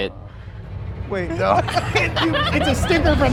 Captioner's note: suspenseful music; all laughing